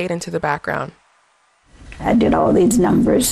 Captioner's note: soundbite of archived recording